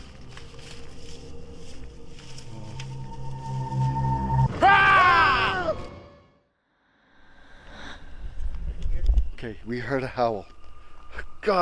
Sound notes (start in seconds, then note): 0.0 ominous music; 4.5 yell